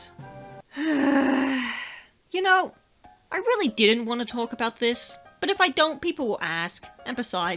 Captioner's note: sigh